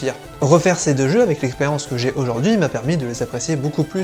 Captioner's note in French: none